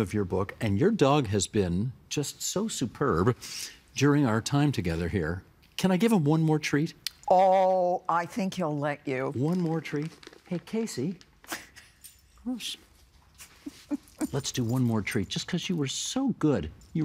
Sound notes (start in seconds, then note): 11.3 laughing